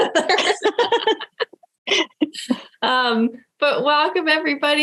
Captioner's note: laughing